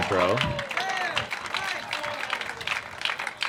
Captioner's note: applause